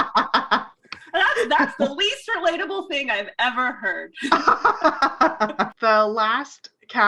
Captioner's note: laughs; laughs